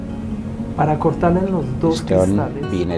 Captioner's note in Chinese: 西班牙语交流中